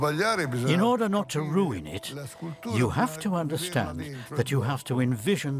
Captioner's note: in Italian